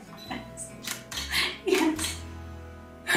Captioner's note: cameras clicking; laughs